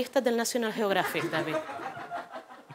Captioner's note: laughter